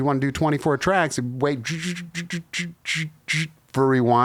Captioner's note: imitates guitar